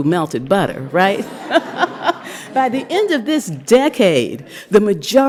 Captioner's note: laughter